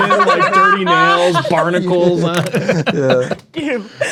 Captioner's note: players laughing